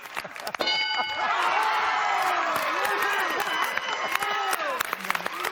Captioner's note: cheers and applause